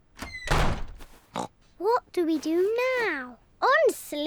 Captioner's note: oinks